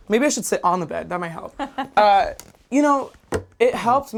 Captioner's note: laughs